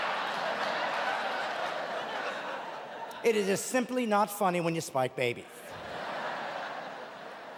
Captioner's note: audience laughing